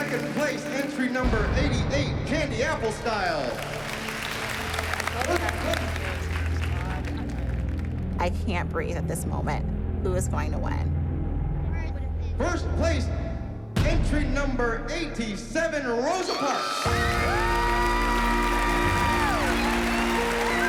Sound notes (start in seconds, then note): 2.8 cheering; 16.2 cheering and applause